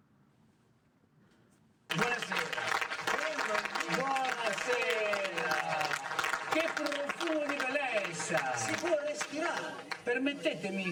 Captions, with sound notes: (audience applauding) - Good evening. - Good evening. - What a fragrance of beauty there is here! You can actually breathe!